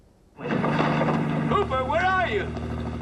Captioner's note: engine rumbling